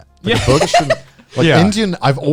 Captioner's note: laughing